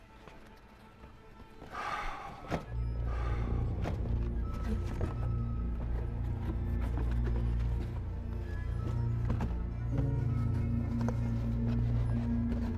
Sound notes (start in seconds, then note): 1.7 Clint sighing heavily; 3.1 gentle tense music